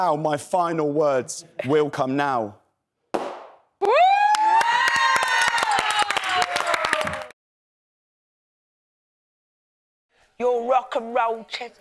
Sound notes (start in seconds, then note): 3.8 cheers